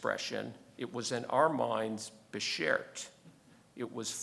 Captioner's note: speaking in foreign language